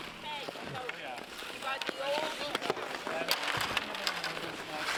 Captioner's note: players chatting